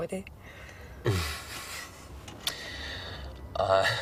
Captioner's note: eddie chuckles